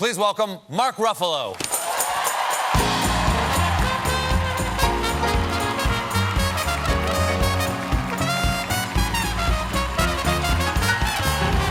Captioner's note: cheers and applause; band playing; cheers and applause